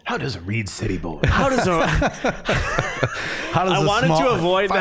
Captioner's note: all laughing